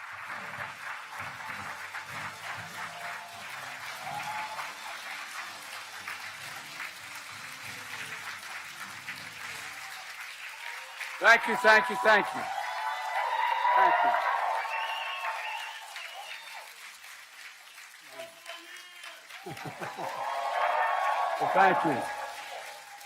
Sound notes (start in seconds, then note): 4.8 applause; 17.7 applause